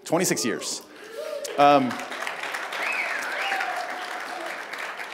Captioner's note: cheers, applause